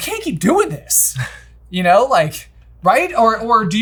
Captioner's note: laughing